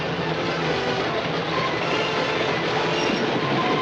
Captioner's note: train rumbling